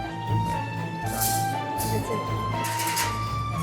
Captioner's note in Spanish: Clang